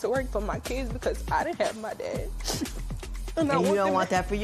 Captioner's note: sniffles